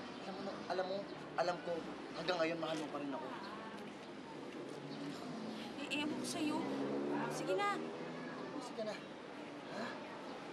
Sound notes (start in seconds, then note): none